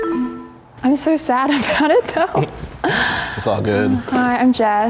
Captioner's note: chuckles